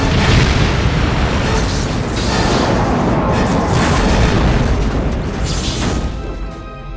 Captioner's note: explosion